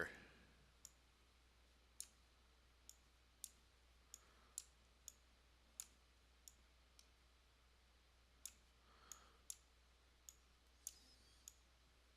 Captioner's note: sound of mouse